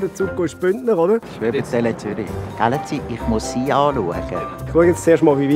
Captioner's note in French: Il imite l'accent de Zurich